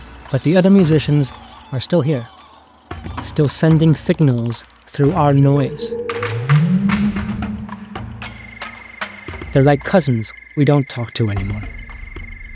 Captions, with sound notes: But the other musicians are still here, still sending signals through our noise. (whale calls) (crickets chirping) They're like cousins we don't talk to anymore.